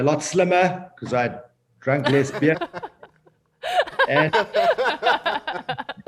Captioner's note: all laughing